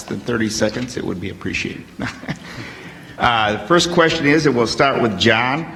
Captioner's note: laughs